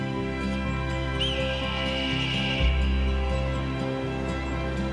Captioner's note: raptor scream